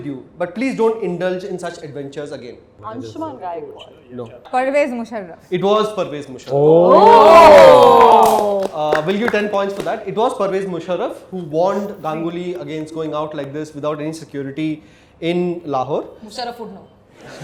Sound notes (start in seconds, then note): 6.8 all four panels of participants going woooooaaaah applause fundaaaaaa